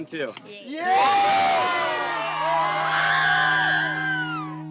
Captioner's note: group cheers